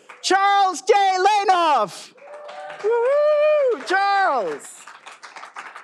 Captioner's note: all applauding